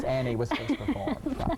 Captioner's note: laughing